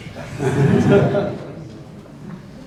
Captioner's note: laughter